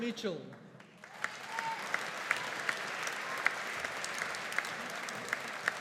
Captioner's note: audience applauding